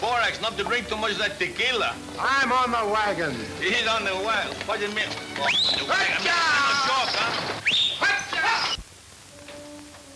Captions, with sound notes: - I'm on the wagon. - He's on the wagon, what'd ya mean? (whistling) (yelling at horses) (pensive orchestra music)